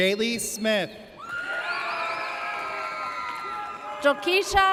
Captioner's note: audience cheers